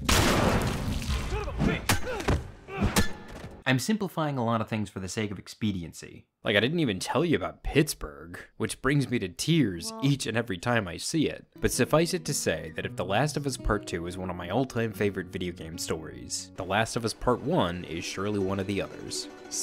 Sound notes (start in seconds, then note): 0.0 gun fires; 3.1 yelps